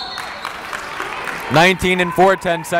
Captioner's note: whistle blowing